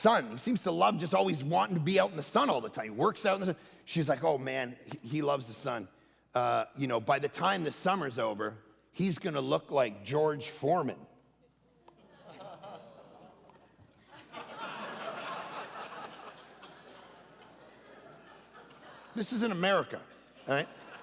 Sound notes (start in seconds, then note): 12.5 congregation laughing